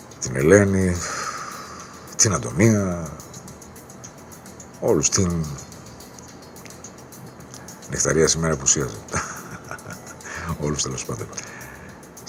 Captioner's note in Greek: γέλια